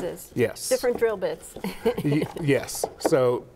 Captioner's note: chuckles